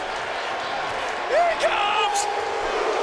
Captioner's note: applause